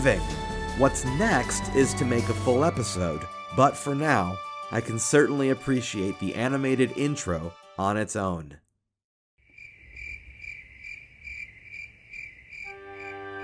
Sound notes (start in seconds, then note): 9.4 crickets chirping